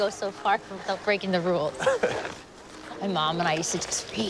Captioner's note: Nicolas chuckles